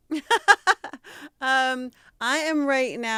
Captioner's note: laughing